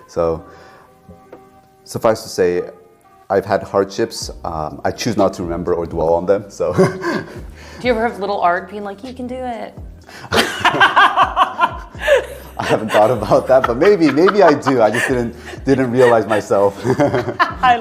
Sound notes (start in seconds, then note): 11.0 laughing